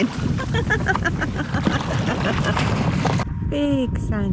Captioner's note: laughter